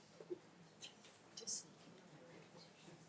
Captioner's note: speaks faintly